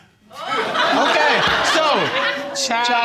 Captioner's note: crowd laughing